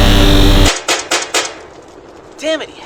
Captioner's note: shots fired